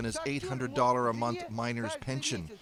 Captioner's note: speaking Russian